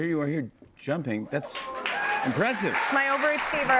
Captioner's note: cheers and applause